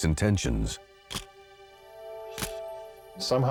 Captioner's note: camera shutter click